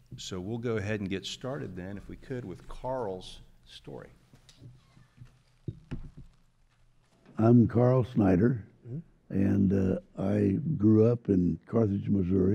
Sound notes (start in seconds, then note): none